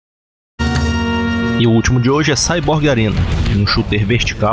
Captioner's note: speaking portuguese